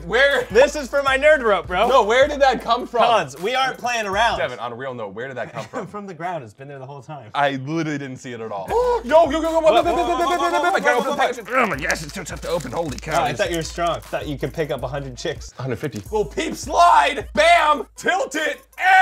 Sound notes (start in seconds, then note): 8.7 gasps; 9.6 stammers